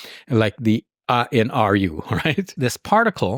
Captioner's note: chuckles